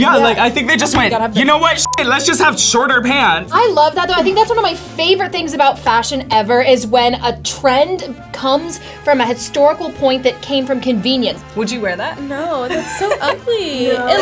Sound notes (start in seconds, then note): 1.8 beep; 12.4 laughs